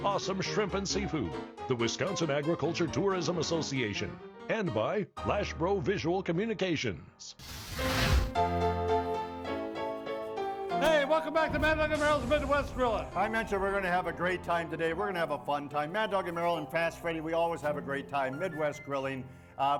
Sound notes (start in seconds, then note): 7.4 flame whooshes; 8.6 upbeat piano music